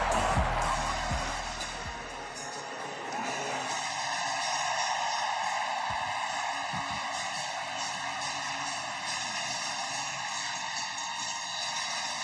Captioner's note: cheering and Applause